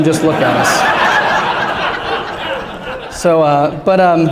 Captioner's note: laughter